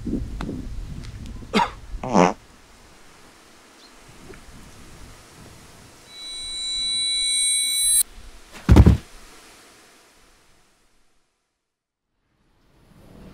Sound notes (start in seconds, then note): 2.0 fart; 8.6 thud